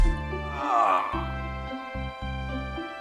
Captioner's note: N00bly groans in pain